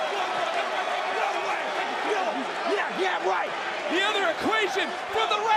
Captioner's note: yelling